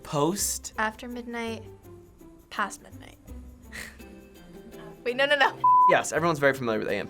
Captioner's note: chuckles